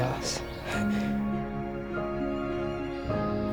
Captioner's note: chuckles